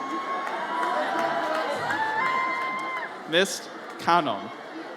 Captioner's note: audience cheers